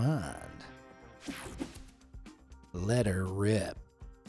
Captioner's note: screen whooshing